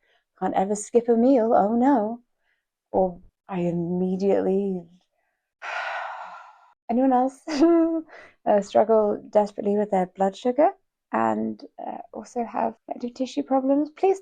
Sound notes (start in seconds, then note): 5.6 sighs